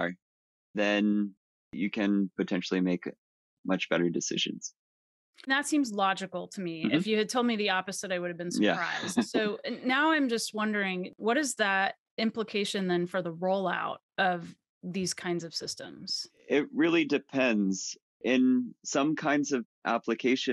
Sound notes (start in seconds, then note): 8.5 laughs